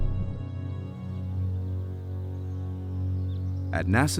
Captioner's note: rumbling and bubbling of vents; birds chirping